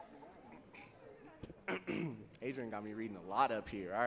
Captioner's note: clearing throat